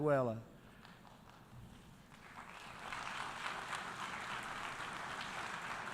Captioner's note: applause